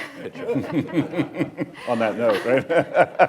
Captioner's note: laughter